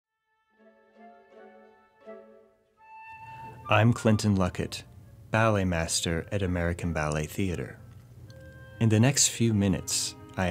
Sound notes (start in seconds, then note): 3.7 voiceover